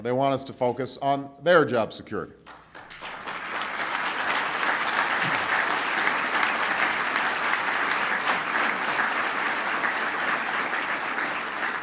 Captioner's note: applause